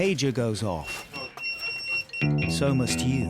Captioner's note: pager beeping